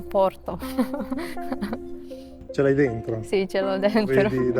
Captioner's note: laughs